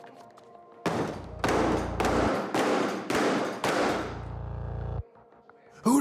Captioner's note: banging